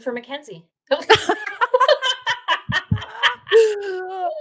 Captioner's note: laughing